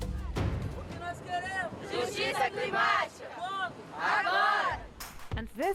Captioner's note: chanting